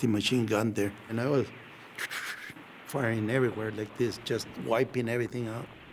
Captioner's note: makes mouth noise